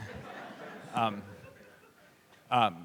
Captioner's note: laughter